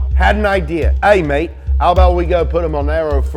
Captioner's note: Australian accent